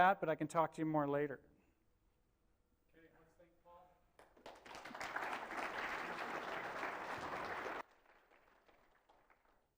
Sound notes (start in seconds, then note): 4.1 applause